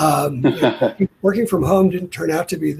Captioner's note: laughs